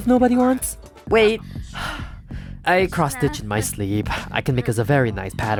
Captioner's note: sigh